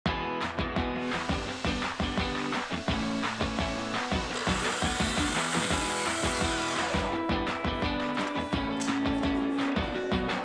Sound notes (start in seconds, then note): 0.1 upbeat music; 1.4 tools whirring